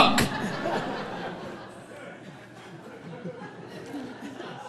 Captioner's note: audience laughing